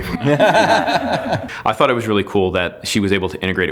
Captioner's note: laughing